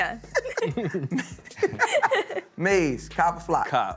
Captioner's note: all laughing